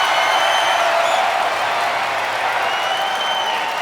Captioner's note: crowd clapping and cheering